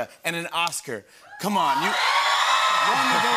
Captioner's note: cheers and applause